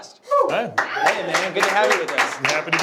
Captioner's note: clapping